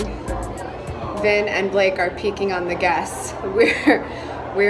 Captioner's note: laughs